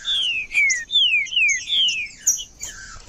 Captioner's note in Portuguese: trinca ferro cantando